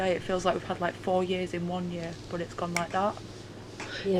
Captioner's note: clicks